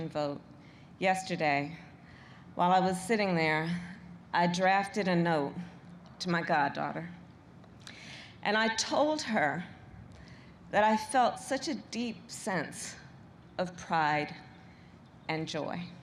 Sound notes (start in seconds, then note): none